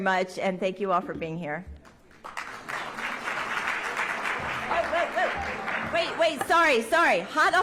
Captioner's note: applause